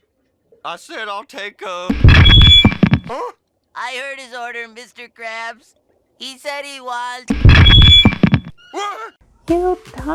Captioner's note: mic drop